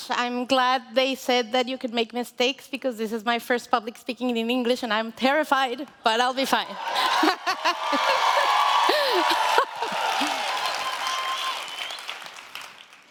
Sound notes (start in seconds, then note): 6.6 audience cheering